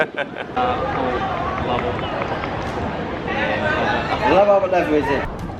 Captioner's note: chatter